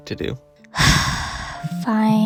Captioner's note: sigh